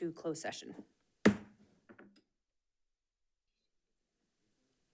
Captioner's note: gavel bangs